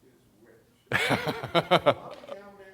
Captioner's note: laughs